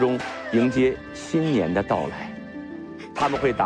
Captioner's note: amidst the lively sounds of firecrackers